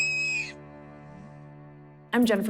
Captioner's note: shrieks